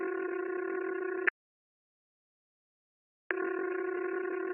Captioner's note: phone ringing